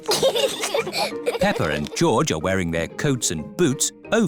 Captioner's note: both giggle